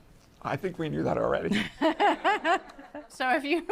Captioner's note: laughs